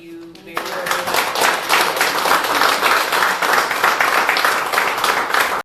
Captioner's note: applause